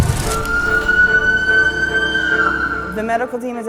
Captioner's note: sirens